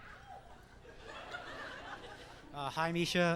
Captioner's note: laughs